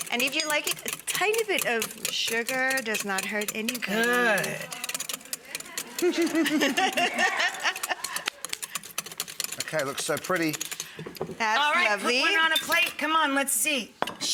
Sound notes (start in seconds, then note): 5.7 chef laughing